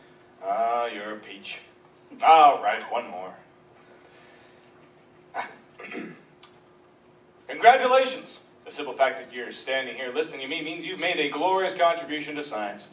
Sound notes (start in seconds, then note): 5.3 clears throat